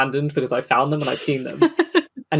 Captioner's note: laughs